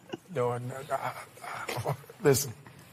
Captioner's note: laughs